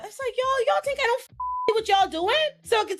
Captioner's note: beep